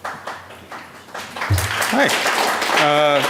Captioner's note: audience applause